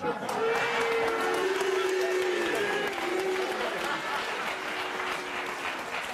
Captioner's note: audience booing and clapping